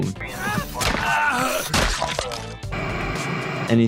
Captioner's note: victim grunting; blood spraying